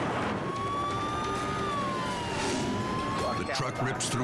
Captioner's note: sirens wailing